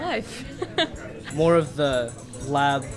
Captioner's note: laughter